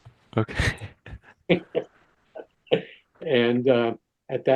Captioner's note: both laughing